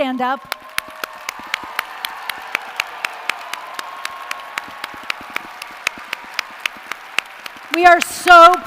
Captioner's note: applause & cheers